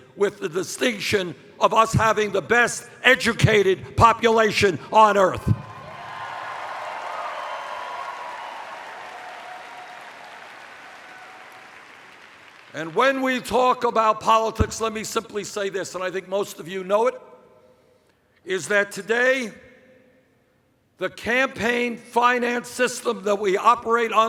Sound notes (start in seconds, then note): 8.5 cheers